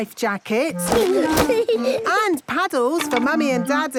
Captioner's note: giggling